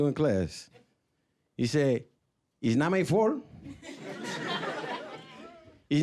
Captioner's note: with Spanish accent